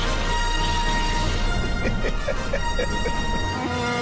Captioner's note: cackles; growls